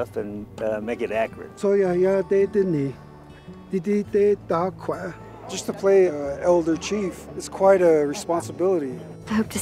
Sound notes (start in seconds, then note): 1.8 man speaking Indigenous language